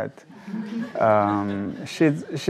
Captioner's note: audience laughs